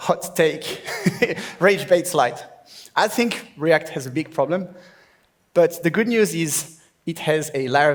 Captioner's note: laughs